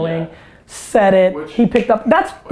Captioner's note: fingers snap